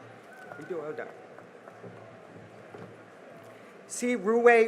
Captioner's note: cheering and applause